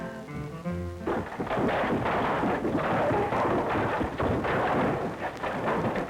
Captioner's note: crashing